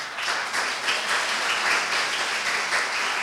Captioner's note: applause